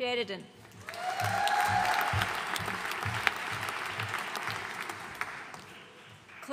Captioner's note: audience cheering and applauding